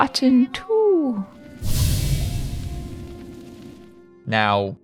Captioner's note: sudden magical noise